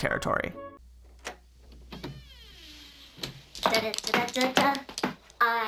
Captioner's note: door creaks open